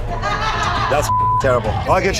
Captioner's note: beeps